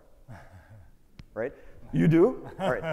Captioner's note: chuckles